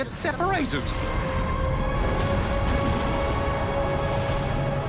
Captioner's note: thunder clashes